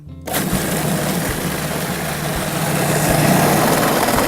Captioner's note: loud grinding